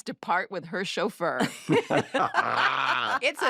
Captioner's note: all laugh